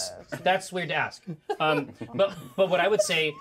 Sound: laughs; speaker chuckles

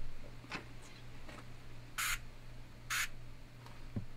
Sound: none

